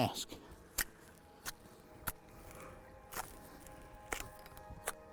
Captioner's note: wood splitting